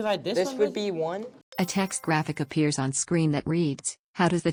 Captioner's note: chime